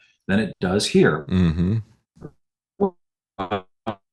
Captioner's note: audio Cuts Out